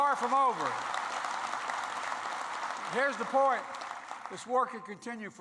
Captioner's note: applause